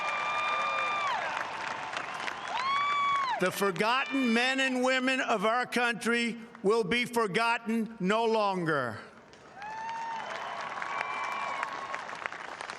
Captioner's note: applause